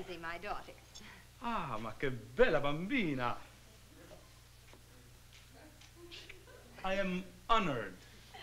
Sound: speaking italian

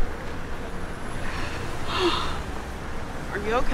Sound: lady breathing deeply

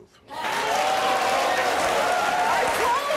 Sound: audience applauds

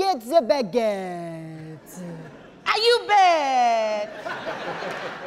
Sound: audience laughing

